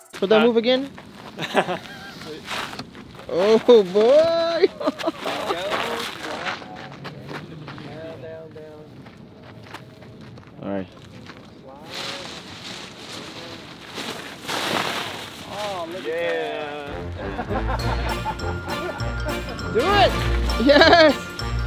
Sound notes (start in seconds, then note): 1.3 chuckles; 4.2 laughs; 11.9 kite ruffling; 16.8 laughing